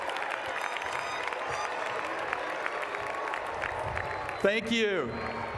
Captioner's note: applause